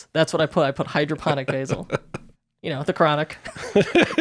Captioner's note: laughing